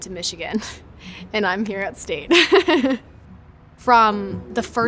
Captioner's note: laughs